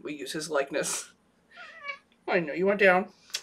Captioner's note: meows